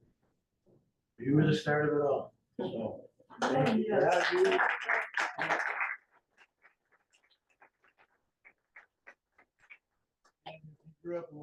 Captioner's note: clapping